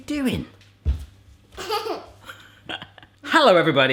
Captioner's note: laughs